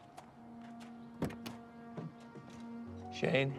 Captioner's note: door open close